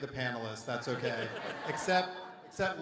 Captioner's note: everyone laughs